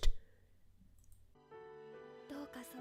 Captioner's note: mouse Click; Speaking Japanese